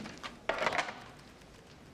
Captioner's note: click